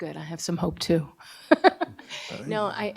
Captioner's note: chuckles